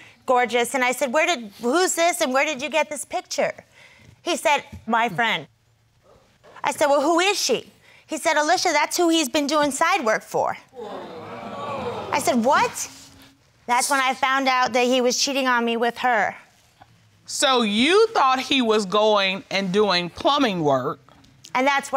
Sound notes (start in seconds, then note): 10.7 crowd gasping